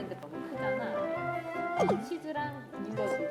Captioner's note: slurp